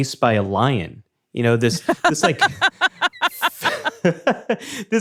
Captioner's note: laughs